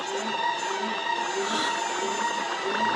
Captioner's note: gasping